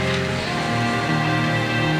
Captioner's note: door closes